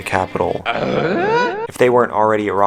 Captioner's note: tim allen noise